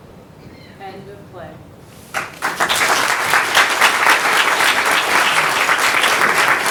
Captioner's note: audience applauding